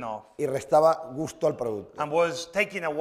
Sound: speaking spanish

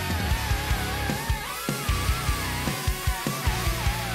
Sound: machine whirring

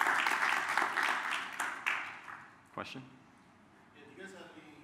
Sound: applause

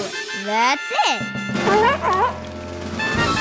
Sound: barking

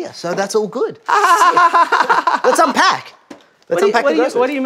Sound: laughing awkwardly

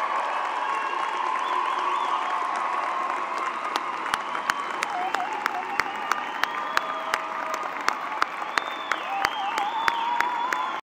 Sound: cheers and applause

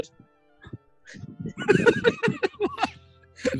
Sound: giggling

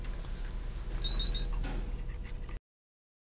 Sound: beeping

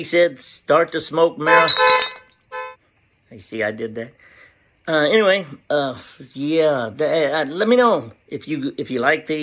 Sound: honk Honk

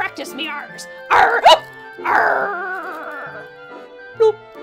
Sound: hiccups

